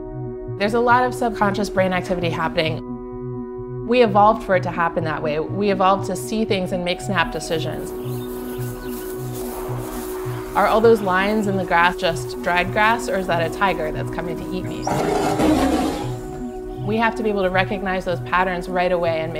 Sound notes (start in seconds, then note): 14.8 growling